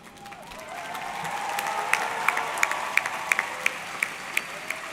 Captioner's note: audience cheering; audience clapping